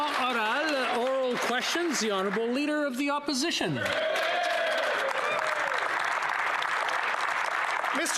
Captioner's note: some Applause